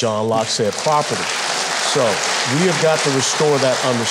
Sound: audience applauding

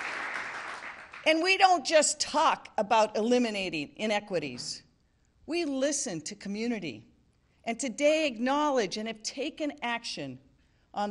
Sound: applause

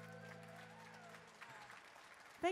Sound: audience claps

